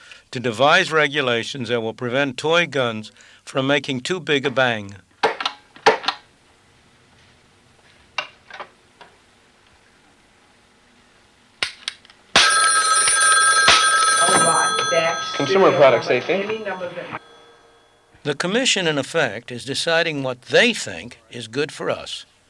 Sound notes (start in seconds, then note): 5.5 various toy gun noises